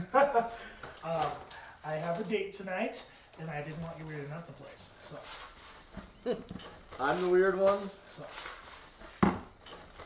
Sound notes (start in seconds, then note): 0.0 laughs; 5.8 laughter